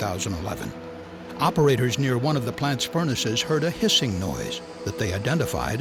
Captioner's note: hissing noise